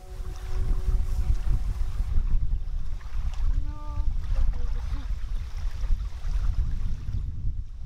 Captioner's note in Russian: плещется вода